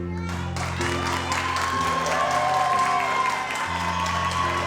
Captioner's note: audience applauds